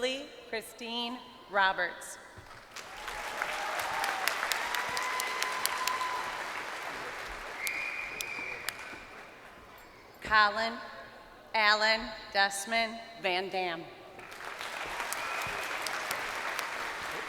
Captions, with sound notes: Lilly Christine Roberts. (crowd cheering) Collin Allen-Desmond Van Dam.